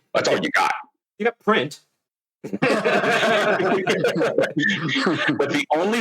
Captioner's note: laughter